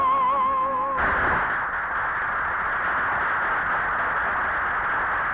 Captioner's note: audience applauding